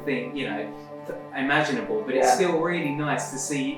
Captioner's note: laughs